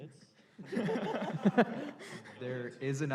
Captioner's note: laughter